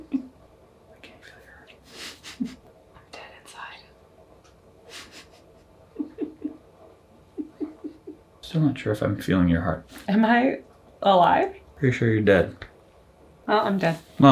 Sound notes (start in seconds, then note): 5.8 chuckles